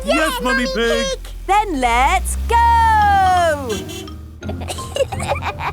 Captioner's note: honking; giggling